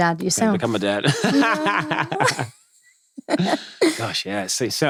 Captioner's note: both laughing